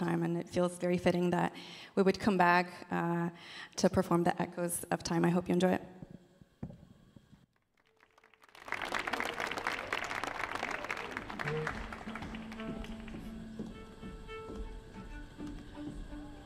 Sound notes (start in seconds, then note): 7.6 audience applauding; 13.1 instruments tuning